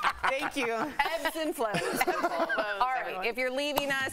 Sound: laughter

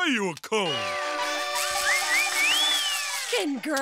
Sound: party horns blaring

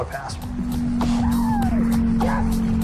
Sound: cheering

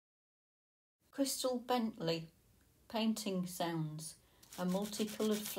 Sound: painting sounds

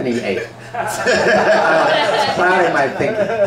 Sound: the audience laughs

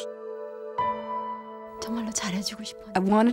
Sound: speaking korean

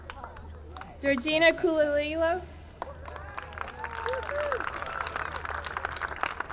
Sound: audience clapping; audience cheering

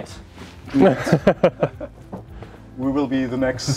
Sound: laughter

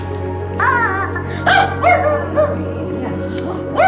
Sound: honking; dog barking; dog barking

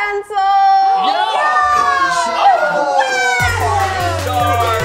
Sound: all cheering

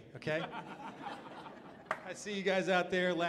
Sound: audience laughs

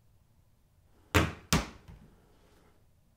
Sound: banana hits a wall

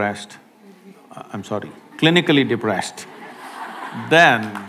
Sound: laughter/Applause

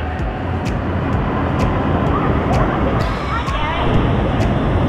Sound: water roaring

